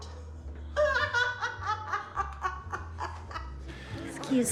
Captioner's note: woman laughs derisively